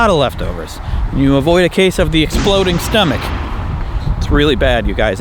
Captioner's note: bang